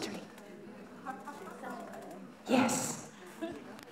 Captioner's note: laughter